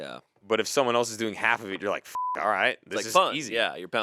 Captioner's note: beep